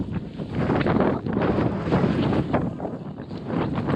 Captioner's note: windy